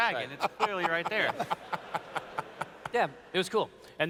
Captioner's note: laughs